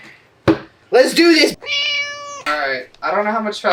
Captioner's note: meow